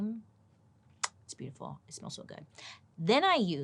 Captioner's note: lips smack